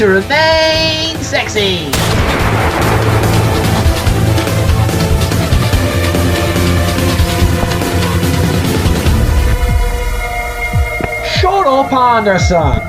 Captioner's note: gunshot